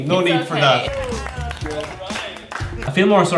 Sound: clapping

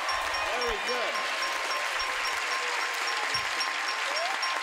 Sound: cheers and applause; dings

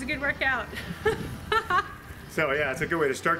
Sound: laughing

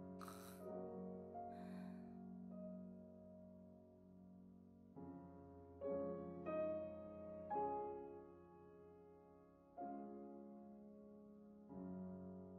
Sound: gasps

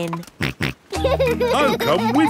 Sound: snorts and laughs

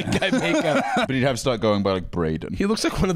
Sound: laughs

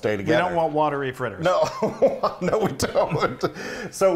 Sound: laughing

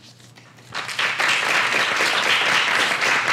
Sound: applause

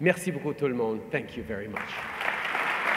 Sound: applause

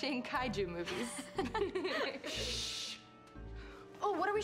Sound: laughing

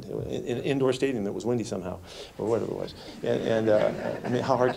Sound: laughter

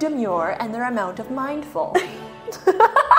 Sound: laughs

